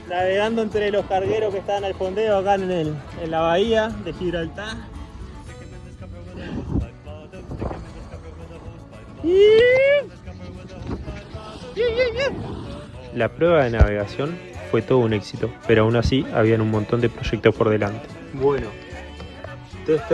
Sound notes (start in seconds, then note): 6.1 scream of excitement